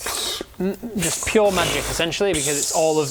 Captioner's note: pfffpfpfpfpt